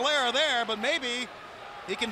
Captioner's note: crowd cheering